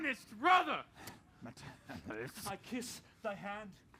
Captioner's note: whispering